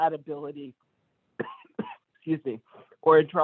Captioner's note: coughs